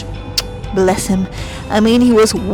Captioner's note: kissing sound